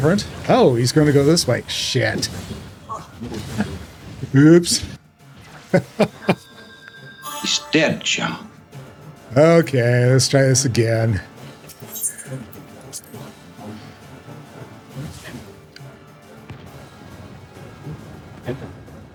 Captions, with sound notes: Oh, he's going to lose my shit. Oops. [laughs] Stench him. Okay, let's try this again.